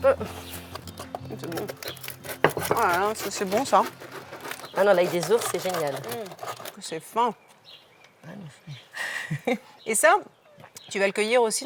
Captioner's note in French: rires